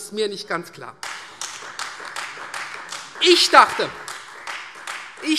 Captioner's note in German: Beifall Freie Demokraten